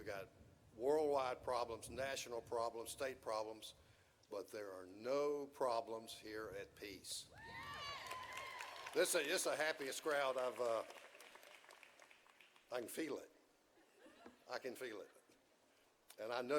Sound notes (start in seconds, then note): 7.3 audience cheering